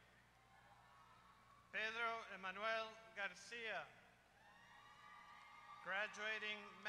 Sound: applause

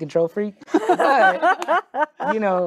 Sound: group laughing

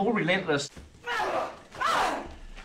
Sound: all grunting

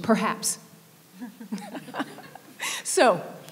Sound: laughing

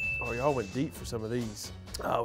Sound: bell chimes

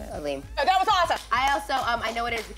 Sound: clapping

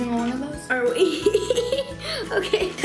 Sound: laughs

